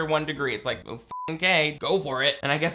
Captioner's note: beeps